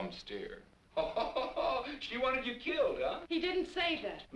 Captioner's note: laughs